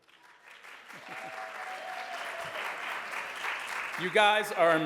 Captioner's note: audience cheers and applauds